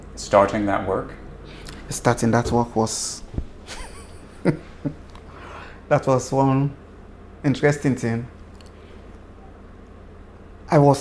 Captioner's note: laughs